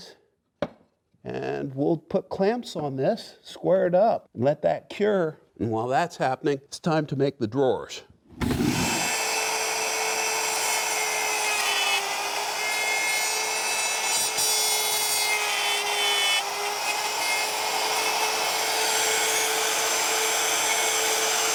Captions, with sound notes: made up to the tenons, and we'll put clamps on this, square it up and let that cure, and while that's happening it's time to make the drawers. (wood scrapes) (router whines against wood)